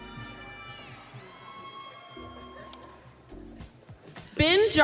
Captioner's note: audience cheering